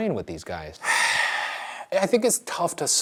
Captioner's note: Shane sighs